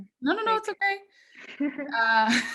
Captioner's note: laughing